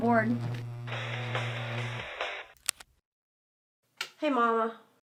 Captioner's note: phone ringing